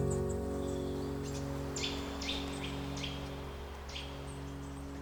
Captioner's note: birds chirp